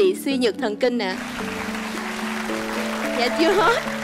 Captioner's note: applause